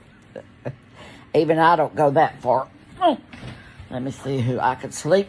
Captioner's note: laughs; grunts